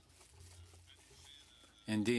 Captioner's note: speaking French